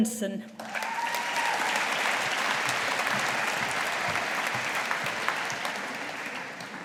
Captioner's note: audience applauding